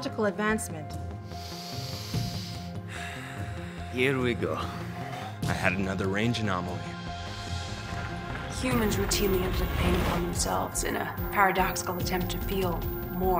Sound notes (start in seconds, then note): 4.4 sighs